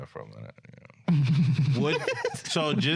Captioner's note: laughing